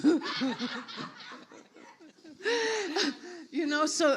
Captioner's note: audience laughs; laughs